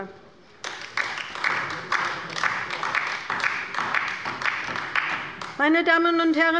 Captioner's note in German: Beifall bei der LINKEN